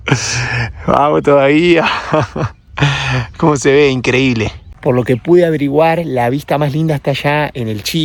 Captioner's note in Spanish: suspiro